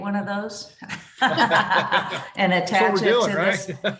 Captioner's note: laughter